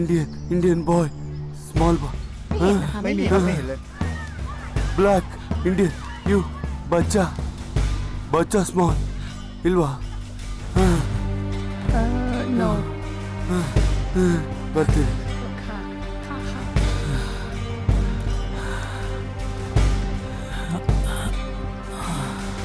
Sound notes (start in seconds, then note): 2.5 Malay Language; 15.0 Malay Language; 16.4 sighs